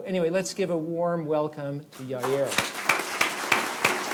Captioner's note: applause